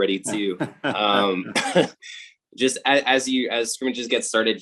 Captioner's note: laughing